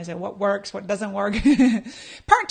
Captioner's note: laughs